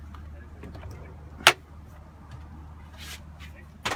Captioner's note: door opening